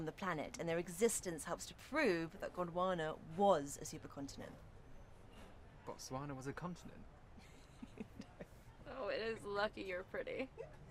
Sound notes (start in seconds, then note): 7.4 laughter